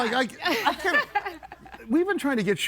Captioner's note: laughs